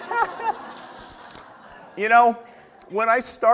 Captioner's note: audience laughter